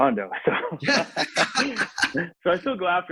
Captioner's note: laughs